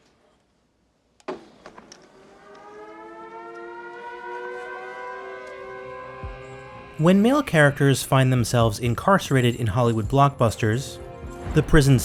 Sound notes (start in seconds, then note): 1.9 siren wailing